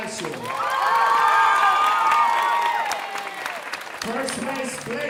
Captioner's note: audience cheering and applauding